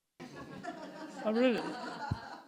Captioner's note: audience laughing